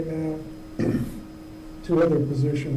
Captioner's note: he clears his throat